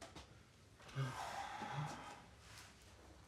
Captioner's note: sighs